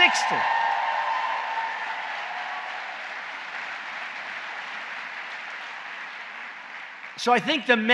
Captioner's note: applause